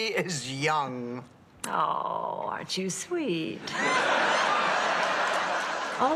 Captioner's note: laughs